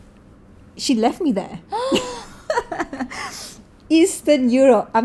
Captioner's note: laugh